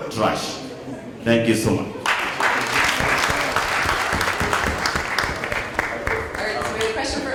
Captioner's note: applause